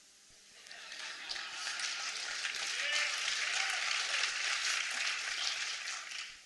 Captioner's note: applause